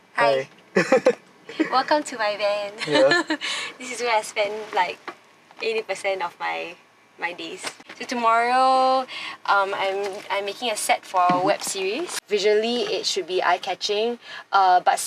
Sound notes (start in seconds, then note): 0.7 chuckles